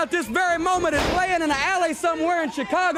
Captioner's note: crowd chatter